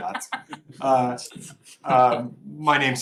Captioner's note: laughter